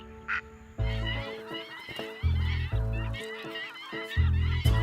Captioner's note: birds calling